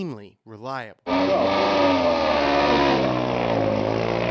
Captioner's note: engine revving